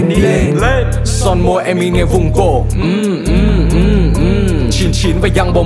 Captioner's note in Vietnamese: Mm, Mm, Mm